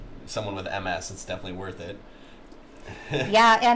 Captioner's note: laughs